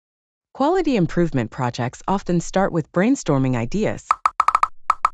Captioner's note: popping sound